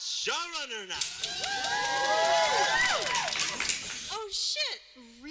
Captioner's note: cheers